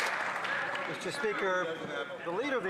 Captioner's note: some Applause